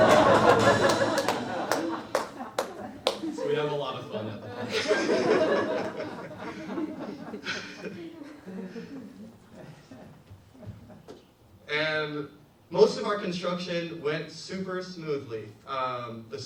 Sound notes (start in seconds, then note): 0.1 audience laughs; 5.0 audience laughs